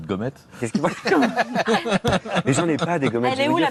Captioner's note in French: rires